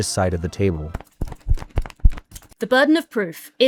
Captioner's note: flag flapping